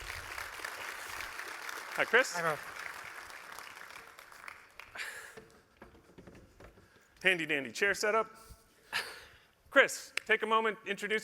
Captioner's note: applause